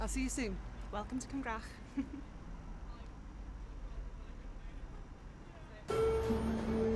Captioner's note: laughs; dramatic music